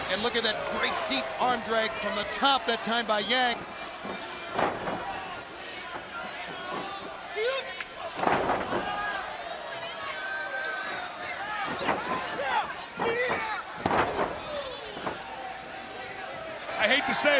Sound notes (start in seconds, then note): 6.7 crowd chatter